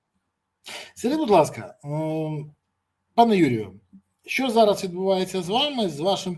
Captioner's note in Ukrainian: сопіння